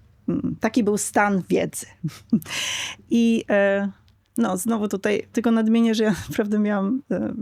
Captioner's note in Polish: śmiech